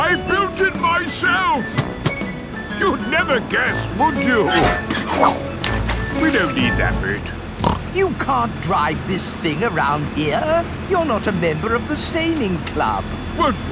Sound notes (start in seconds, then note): 5.4 splashes; 7.6 snorts